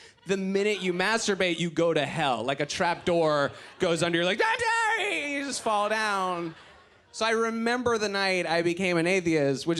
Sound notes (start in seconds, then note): 3.7 yells